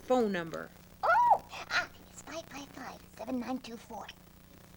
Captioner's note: whispering